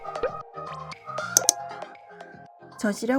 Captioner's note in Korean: 뿅! - 효과음; 딸깍! - 효과음